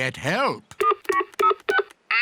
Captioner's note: imitates dial tones; dial tones beep